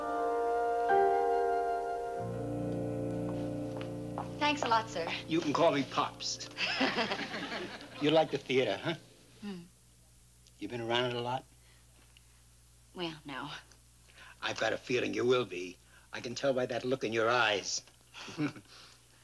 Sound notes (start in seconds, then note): 6.6 laughing